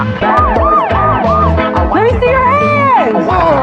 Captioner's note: sir blaring